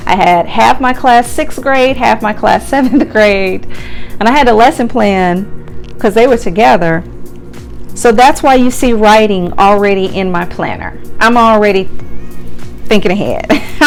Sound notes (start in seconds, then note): 2.8 chuckles